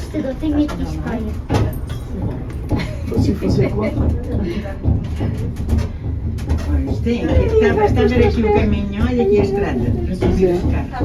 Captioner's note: people speaking Portuguese